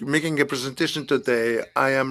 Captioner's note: speaking in French